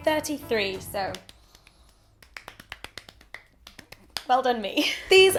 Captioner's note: clapping